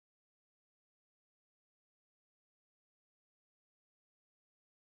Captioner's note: none